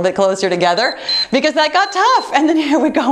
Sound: timer beeps

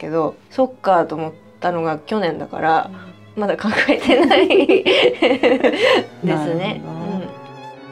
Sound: laughs

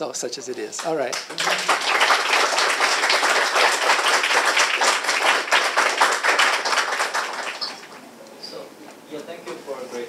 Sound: audience applauding

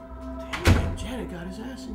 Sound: door slams

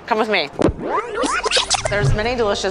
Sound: video tape whining

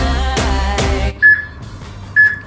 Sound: peep

